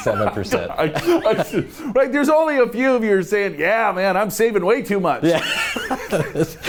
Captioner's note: laughs